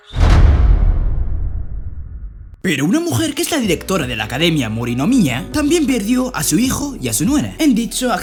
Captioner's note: boom